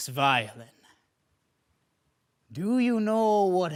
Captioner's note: silence